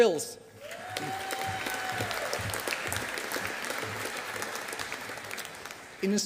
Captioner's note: audience applauding